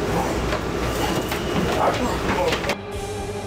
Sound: Jason grunts; ominous music

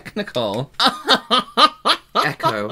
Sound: excited Laughter

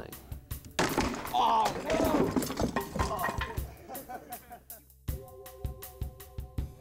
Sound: crashing sound; laughter

